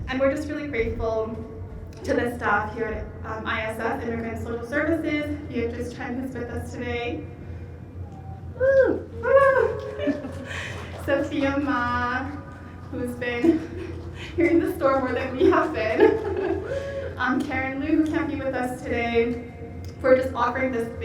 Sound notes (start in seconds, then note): 8.0 whooping